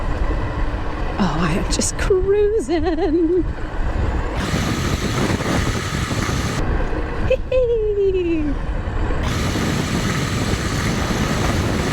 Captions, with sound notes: oh i am just cruising! [singsong] hee heeeee!